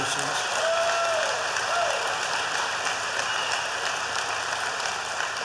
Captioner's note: applause